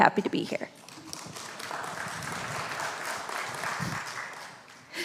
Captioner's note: congregation applauds